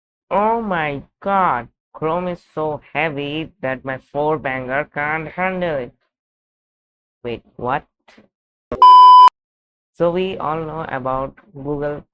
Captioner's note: beep